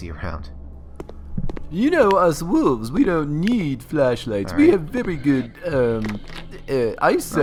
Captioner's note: stammers